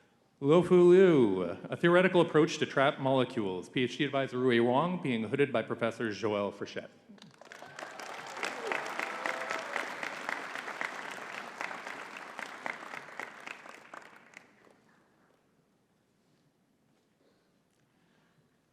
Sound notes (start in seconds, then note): 7.3 audience cheering and clapping